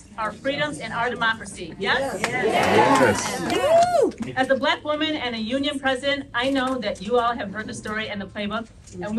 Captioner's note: crowd cheers